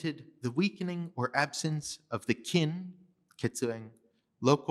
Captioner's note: non english speech